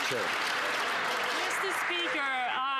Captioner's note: some Applause